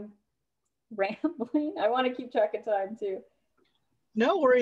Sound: laughter

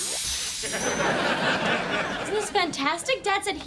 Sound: bright music; audience laughs

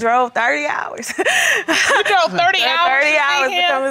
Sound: laughs

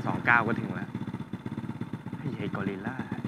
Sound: motorbike engine

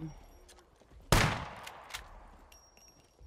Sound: gunshot

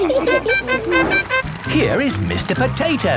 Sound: all laughing; horn tooting

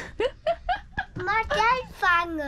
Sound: laughs

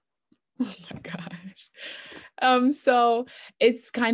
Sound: chuckling nervously

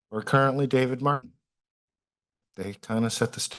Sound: pause

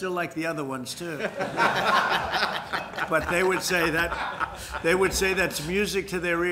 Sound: laughter

